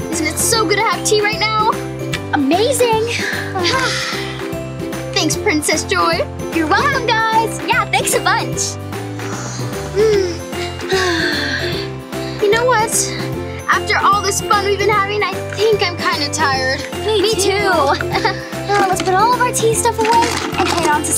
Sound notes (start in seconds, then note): 3.2 sighs; 8.8 upbeat playful music; 9.1 slurping; 9.1 sighs; 18.1 sighs